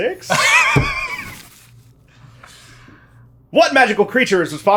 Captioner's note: laughing